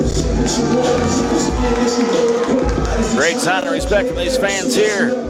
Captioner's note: fans cheering